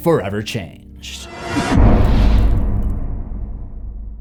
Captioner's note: impact